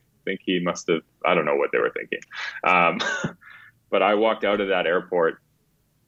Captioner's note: chuckles